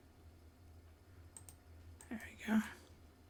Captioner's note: silence